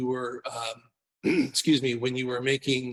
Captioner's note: clears throat